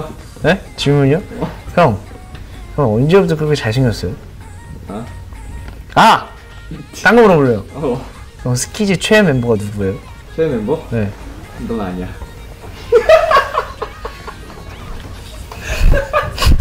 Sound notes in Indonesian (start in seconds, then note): 12.5 tertawa